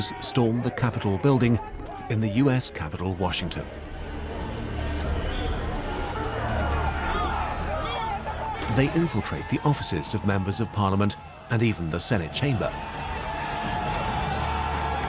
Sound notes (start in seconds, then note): 6.9 crowd shouting aggressively